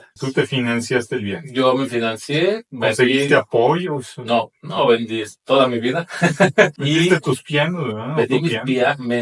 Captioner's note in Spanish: risas